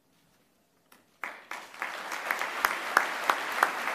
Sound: applause

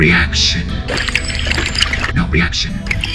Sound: slurp

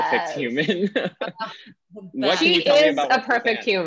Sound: laughing

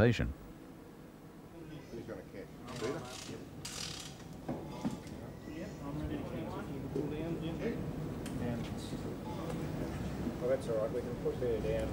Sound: people talking softly

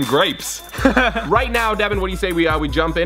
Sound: laughs

